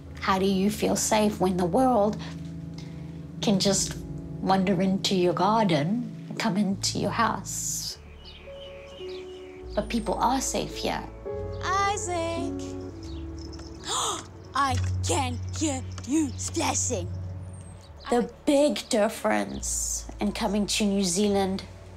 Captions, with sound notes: how do you feel safe when the world can just wander into your garden, come into your house? 'But people are safe here.' Isaac! (GASPS) I can hear you splashing! 'The big difference in coming to New Zealand